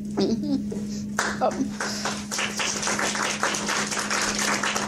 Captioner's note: audience applauding